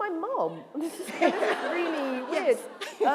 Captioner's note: laughter